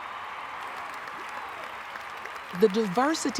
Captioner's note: cheers and applause